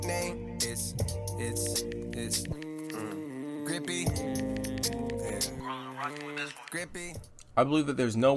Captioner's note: mmm